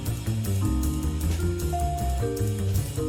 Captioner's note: none